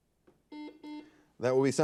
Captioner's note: buzzer beeping